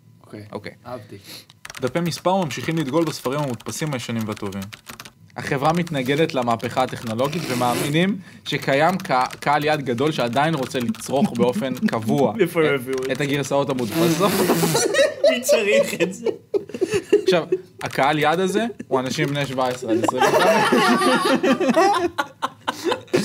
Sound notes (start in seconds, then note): 15.5 laughs; 17.1 snickers; 19.9 laughs